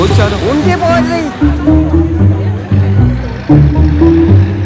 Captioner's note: crowd murmuring